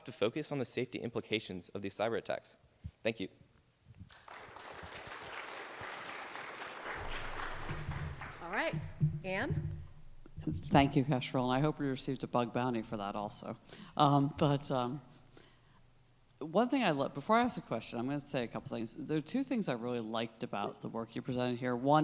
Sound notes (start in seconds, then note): 4.0 audience clapping